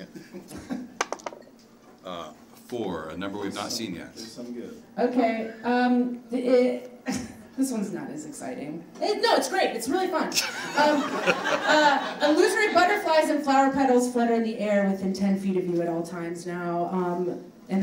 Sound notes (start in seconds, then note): 10.3 audience laughs